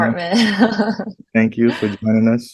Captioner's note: laughs